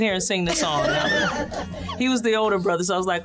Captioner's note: laughter